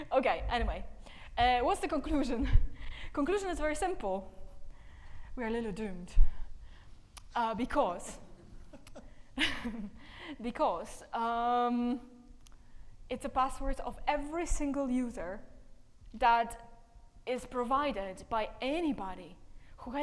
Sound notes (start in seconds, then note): 8.4 laughs